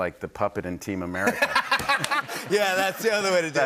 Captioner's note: laughter